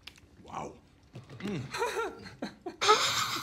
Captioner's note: Gene crying; chuckling